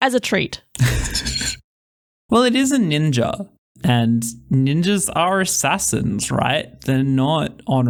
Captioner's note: laugh